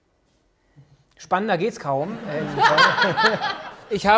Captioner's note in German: Beide lachen